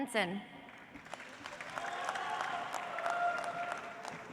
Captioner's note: audience applauds